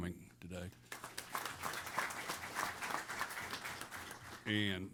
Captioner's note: applause